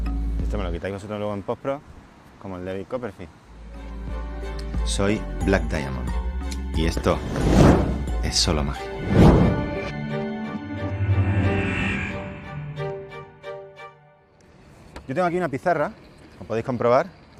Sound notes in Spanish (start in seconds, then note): none